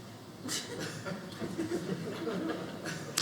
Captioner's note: audience laughing